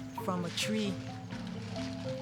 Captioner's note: water pouring